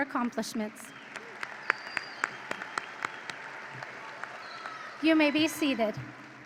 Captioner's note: audience applauds and cheers